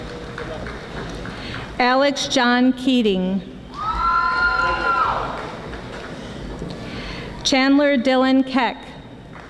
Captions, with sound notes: Alex John Keating (audience yelling) Chandler Dylan Keck